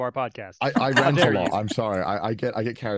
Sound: laughing

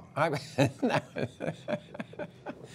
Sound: laughter

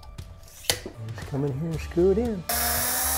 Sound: drill; drilling sound

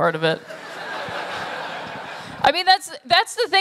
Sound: laughter

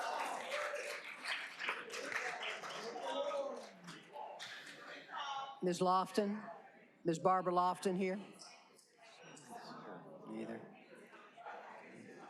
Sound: cheers and applause

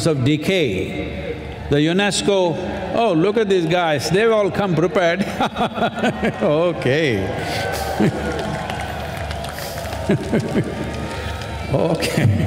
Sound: laughs

